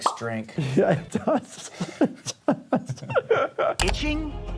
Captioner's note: laughing